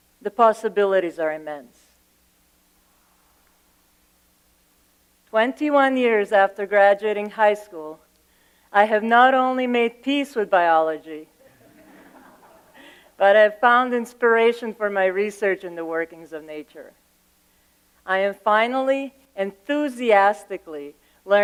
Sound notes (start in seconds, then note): 11.5 laughter